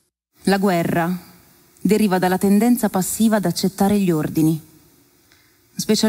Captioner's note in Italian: voce di donna fuori campo